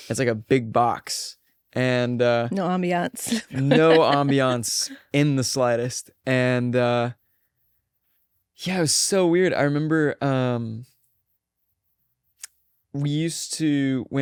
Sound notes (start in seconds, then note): 3.3 laughs